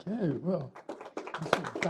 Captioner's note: applause